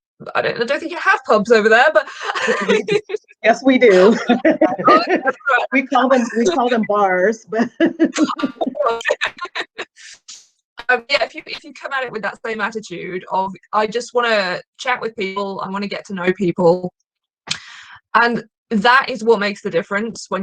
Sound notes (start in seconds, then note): 2.0 chuckling; 7.6 laughing